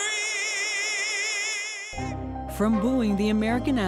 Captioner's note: crowd booing